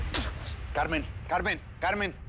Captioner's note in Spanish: Ruido al escupir